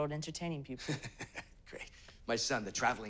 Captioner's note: laughs